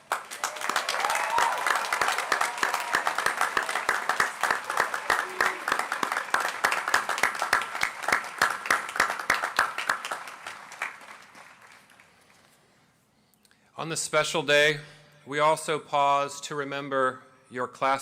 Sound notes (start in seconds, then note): 4.0 applause